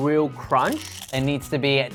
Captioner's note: crisp skin crunching